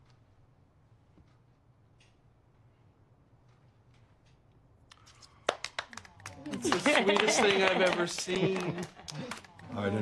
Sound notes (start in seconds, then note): 5.4 applauding